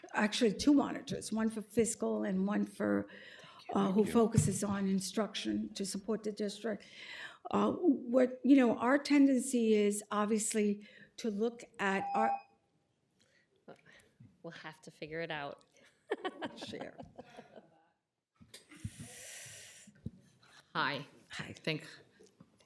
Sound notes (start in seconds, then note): 11.9 timer tone; 16.0 laughter